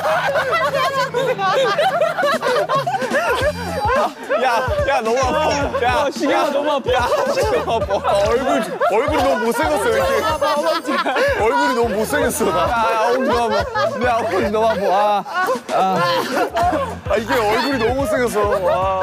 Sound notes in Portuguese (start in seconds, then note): 0.6 Todos riem juntos e desmaia; 12.8 Enquanto alguém está rindo